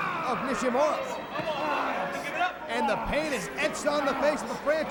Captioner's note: crowd chatter